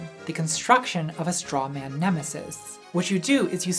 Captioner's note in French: none